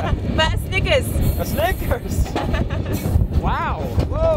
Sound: laughs; laughs

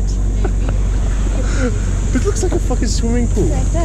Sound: laughing

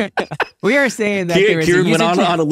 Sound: laughing

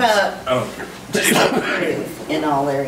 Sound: overlapping chattering

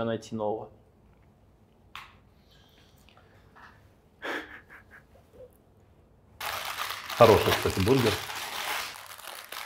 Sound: laughs

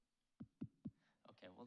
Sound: thumps microphone

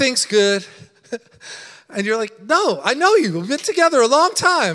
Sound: laughing

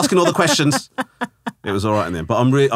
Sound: laughing

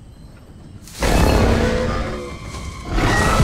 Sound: roars

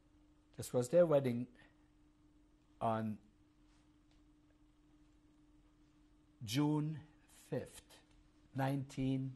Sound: pauses for 3 seconds

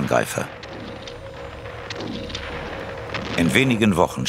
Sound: Explosionen

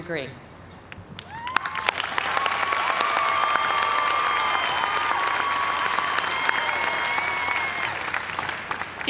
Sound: cheers and applause

